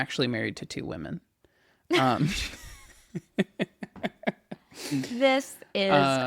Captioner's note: laughs